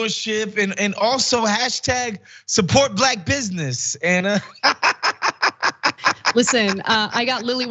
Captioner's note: laugh